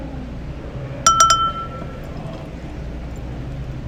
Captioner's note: glass clinks